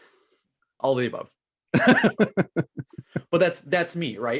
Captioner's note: laughs